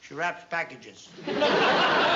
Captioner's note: laughter